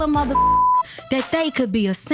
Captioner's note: beep